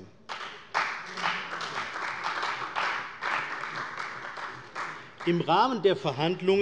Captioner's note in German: Beifall bei der CDU